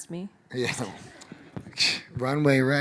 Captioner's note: audience laughing